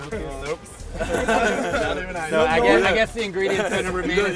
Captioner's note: laughter